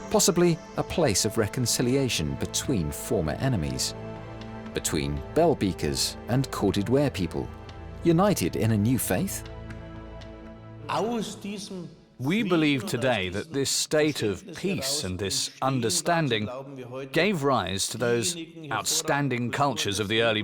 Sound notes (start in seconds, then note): 10.9 speaking German